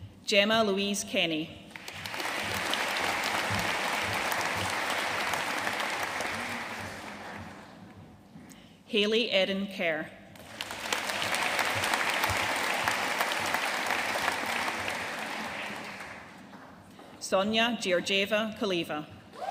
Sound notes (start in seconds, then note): 1.7 audience applauding; 10.4 audience applauding